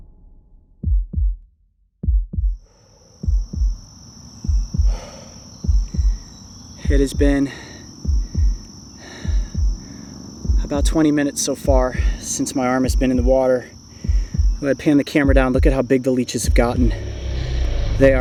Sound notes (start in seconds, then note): 0.9 heartbeat sound; 4.1 exhales